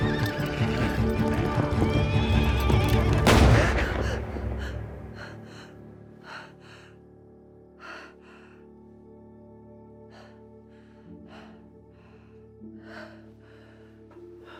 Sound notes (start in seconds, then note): 0.0 horse whinnying; 3.0 gun firing; 3.6 gasping; 6.8 slow, dramatic music